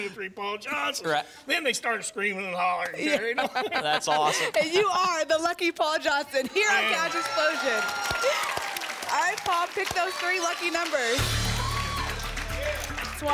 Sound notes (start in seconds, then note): 6.7 applause and cheering